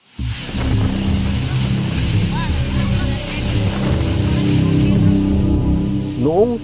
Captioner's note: strong typhoon sound